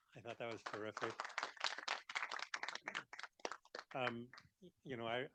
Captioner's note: audience applauding